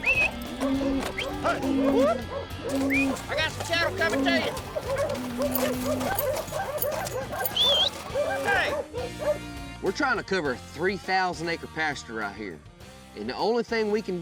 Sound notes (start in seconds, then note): 0.0 calling, whistling; 5.4 dogs barking